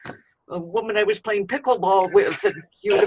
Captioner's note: laughter